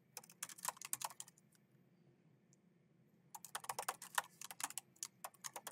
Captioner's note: keyboard clacking